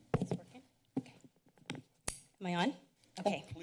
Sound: mic sounds

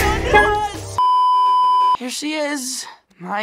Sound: beeeeeep

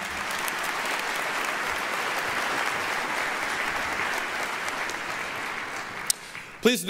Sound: applause

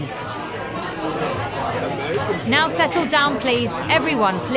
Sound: commotion

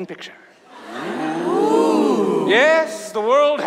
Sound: audience laughs

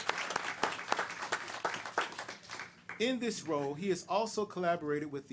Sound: applause

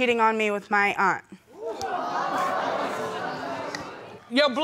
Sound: audience gasping

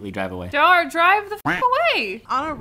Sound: duck quacking

